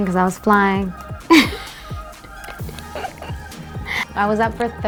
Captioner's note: laughing